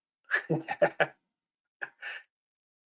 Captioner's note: laughs